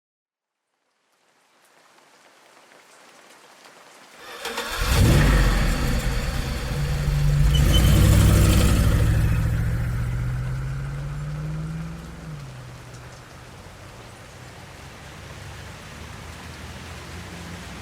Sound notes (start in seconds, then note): 4.2 A car's engine starts; 4.3 tires squeal as they drive off